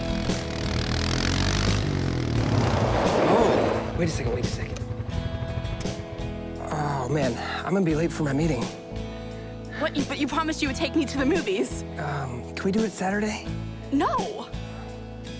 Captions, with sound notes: (tires screeching) - Oh, wait a second. Wait a second. Oh man, I'm gonna be late for my meeting. - What? But you promised you would take me to the movies. - Can we do it Saturday? - No!